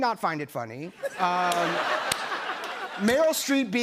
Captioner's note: laughter